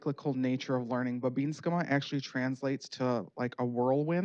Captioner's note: speaking Native language